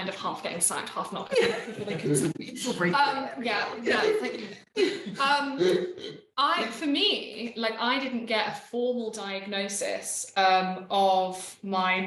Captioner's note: unknown, laughter